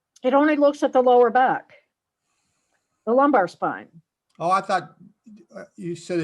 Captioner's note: none